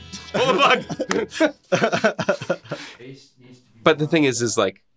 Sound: both laughing

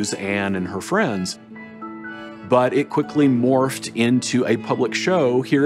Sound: none

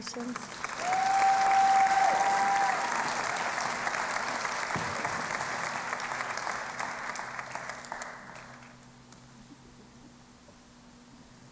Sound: cheering and Applause

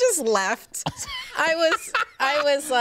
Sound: laughs

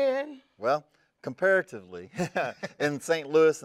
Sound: laughs

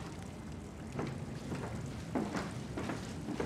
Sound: water running

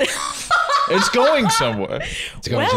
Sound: laughing

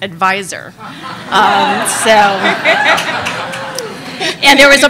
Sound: laughing

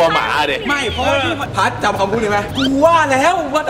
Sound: pat

